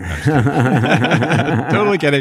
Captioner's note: both laughing